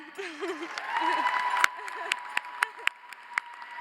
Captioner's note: audience cheers; audience applauds